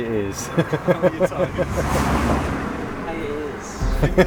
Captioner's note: laughter